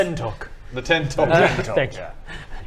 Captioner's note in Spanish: risas